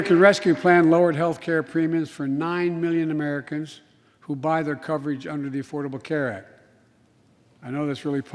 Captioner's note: applause